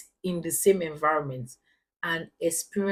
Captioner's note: paause